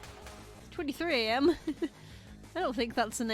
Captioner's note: laughs